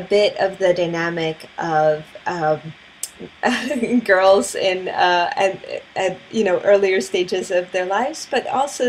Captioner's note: laugh